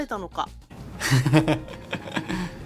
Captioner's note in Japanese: 羽生結弦の笑い声